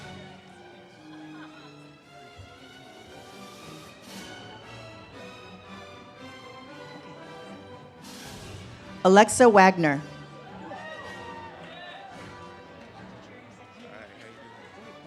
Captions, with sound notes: Alexa Wagner. (audience cheers)